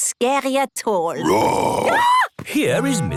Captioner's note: roar, scream